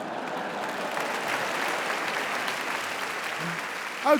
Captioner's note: audience applauding; audience laughing